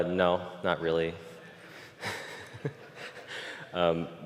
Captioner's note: 웃음